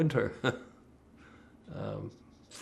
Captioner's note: laughing